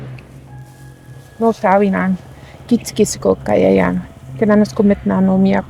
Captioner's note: praying in Cree